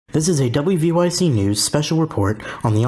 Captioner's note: voiceover